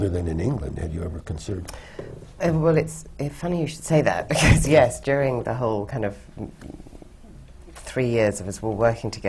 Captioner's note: laughs